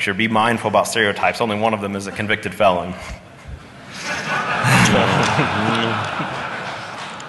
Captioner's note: laughing